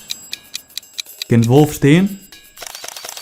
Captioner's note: in Frisian